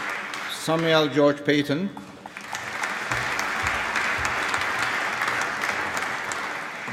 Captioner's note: applause